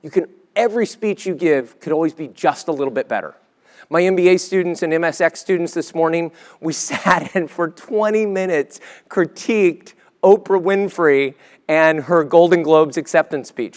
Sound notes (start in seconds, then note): 6.8 laugh